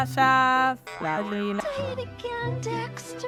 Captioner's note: imitating her accent